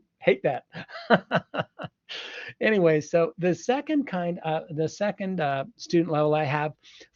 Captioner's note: laughs